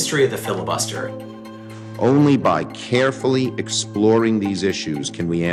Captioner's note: soundbite of archived recording